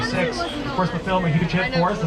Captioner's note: tourists chattering